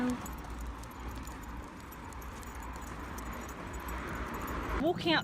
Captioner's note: sound of footsteps, jangling dog lead and traffic